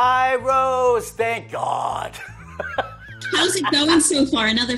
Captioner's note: laughs